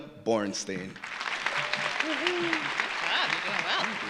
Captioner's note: audience applauding